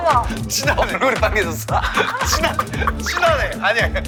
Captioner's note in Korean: 깔깔